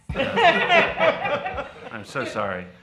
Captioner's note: people laugh